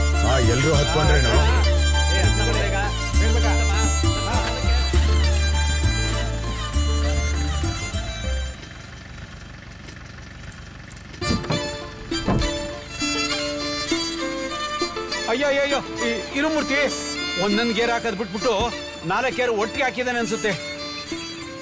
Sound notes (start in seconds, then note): 8.9 car Sound